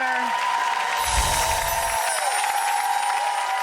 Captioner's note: applause